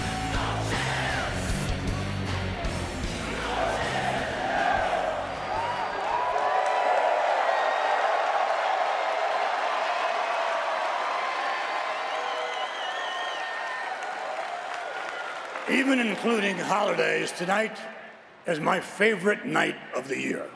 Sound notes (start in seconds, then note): 9.5 cheers and applause